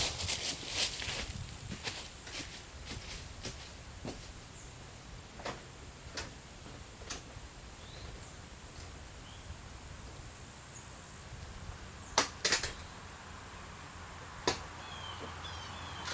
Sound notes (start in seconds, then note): 0.0 sound of dry leaves crunching & walking up steps; 5.4 sound of door opening; 11.8 sound of door closing